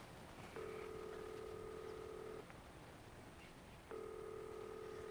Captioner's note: phone rings